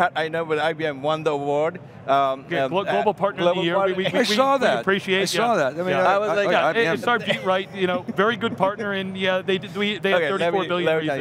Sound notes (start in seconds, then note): 6.0 indistinct conversation